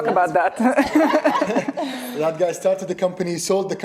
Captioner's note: laughing